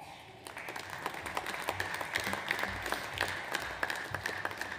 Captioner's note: audience applauds